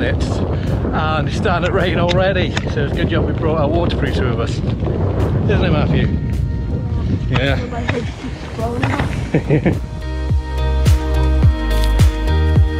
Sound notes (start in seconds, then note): 9.1 chuckling; 10.2 soft music